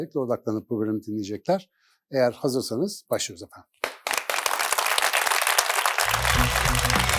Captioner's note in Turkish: alkış